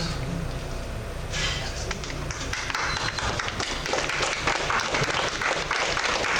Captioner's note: clapping